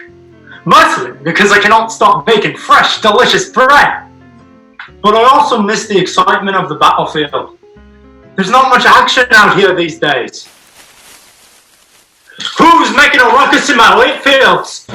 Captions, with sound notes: Mostly because I cannot stop baking fresh delicious bread! But I also miss the excitement of the battle field. There's not much action down here these days. (rustling noise) Who's making a ruckus in my wheat fields?!